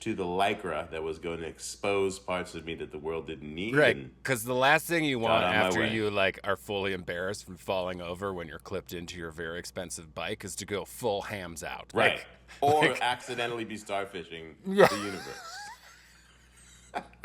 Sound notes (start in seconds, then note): 14.7 laughs